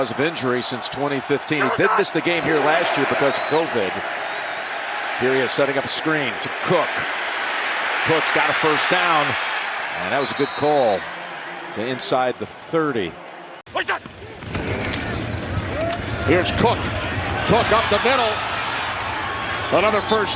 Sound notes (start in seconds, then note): 10.2 whistle